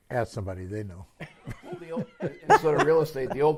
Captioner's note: laughter